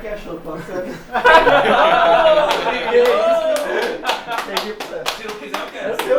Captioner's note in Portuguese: risos